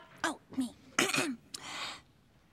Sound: clears throat

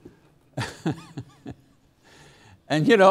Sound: laughs

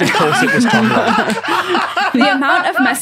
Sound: laughs uproariously

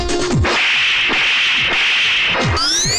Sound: slapping

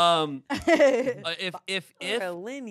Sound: laughs

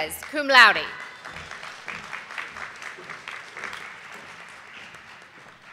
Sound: audience applauding

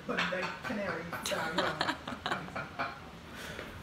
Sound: laughing

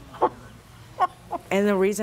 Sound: chuckles

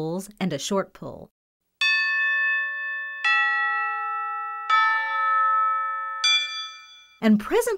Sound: bell rings

